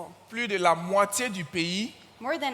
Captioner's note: continues in French